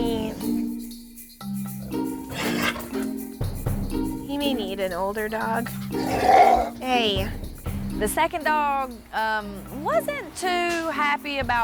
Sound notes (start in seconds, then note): 5.9 dog growling